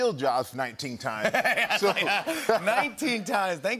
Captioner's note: laughter